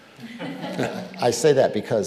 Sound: audience laughing

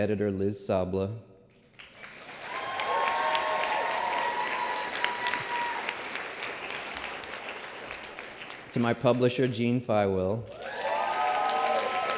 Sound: applause

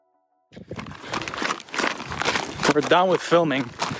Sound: rocks crunching

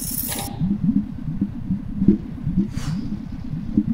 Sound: bubbling

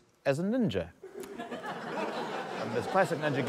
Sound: laughter

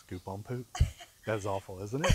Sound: laughing

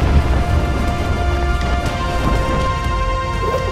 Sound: wind whirring

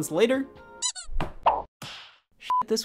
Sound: picture squeaks; beeps

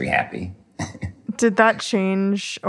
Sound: chuckles

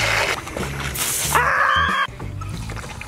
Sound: faucet squeaking; water spraying; screaming; water pouring

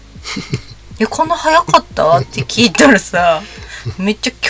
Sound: laughs

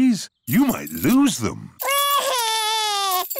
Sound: crying

